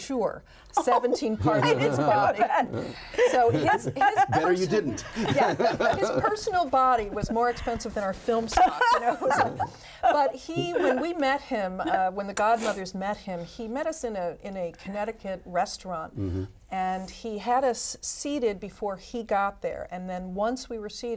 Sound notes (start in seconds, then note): 0.8 laughs; 10.5 laughs